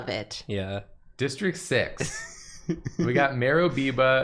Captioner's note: giggling